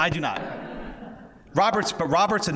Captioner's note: audience laughs